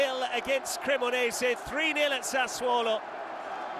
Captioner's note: crowd noise; cheers and applause